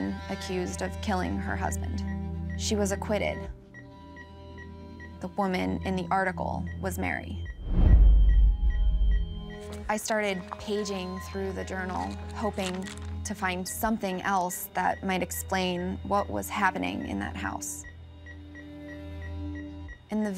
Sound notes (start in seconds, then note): 3.5 beeping; 3.9 ominous music; 7.3 beeping; 7.3 ominous music